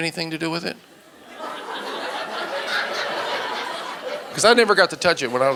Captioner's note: audience laughing